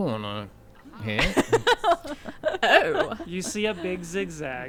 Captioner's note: laughing